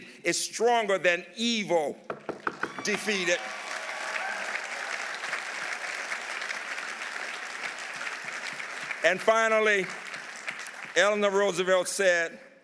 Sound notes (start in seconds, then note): 2.3 audience applauding; 2.5 audience cheering